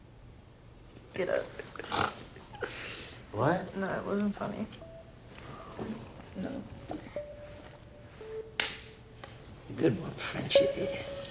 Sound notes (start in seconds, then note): 3.5 French